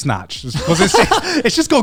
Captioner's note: everyone laughs